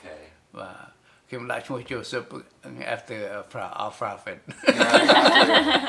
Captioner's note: laughs